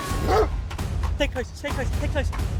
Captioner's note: Archie barking